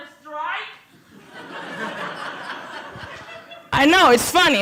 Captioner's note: laughter